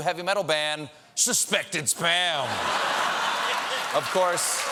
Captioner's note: cheers and applause